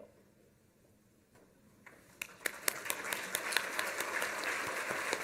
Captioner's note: applause